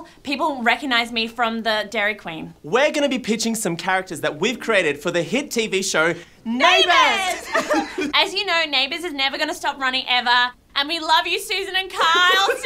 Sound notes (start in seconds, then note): 7.2 giggling